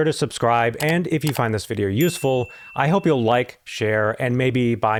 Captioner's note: click, Click; ding